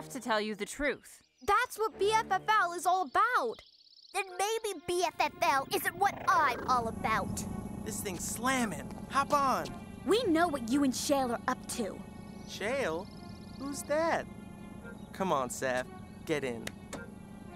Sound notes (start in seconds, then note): none